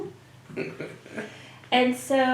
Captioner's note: laugh